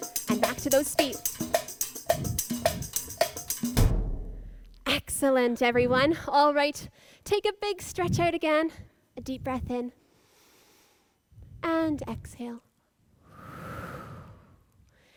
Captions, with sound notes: And back to those feet. Excellent, everyone. Alright, take a big stretch out again, a deep breath in. (inhales) And exhale. (exhales)